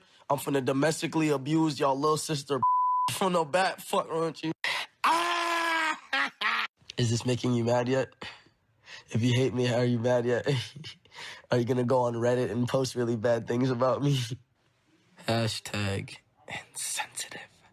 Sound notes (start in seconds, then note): 4.9 cackles